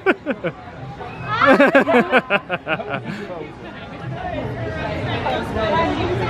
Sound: chuckling; guests chattering indistinctly; chuckling

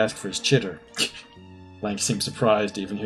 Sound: scoffs

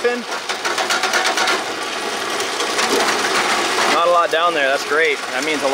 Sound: metal rattling

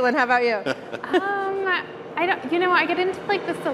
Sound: panelists chuckling

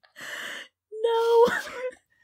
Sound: laughing long and brokenly

